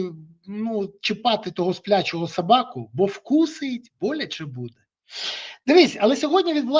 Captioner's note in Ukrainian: сопіння